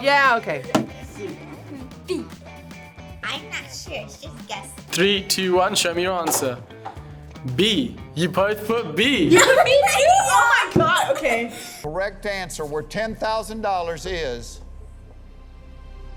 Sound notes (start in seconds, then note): 9.2 laughs